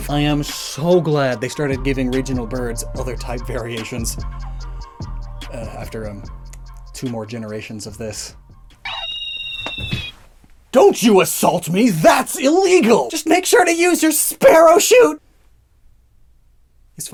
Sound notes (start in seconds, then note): 10.6 Staraptor cries; 10.6 loud punch